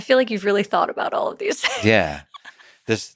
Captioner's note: laughs